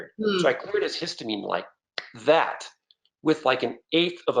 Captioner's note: snaps fingers